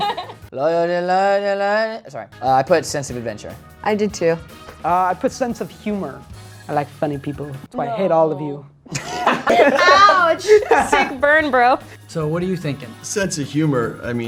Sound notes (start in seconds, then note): 8.8 all laughing